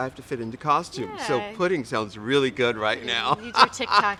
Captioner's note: laughs